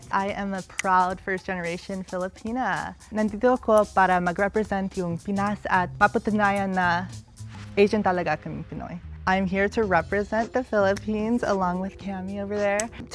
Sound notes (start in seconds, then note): 3.3 speaking foreign language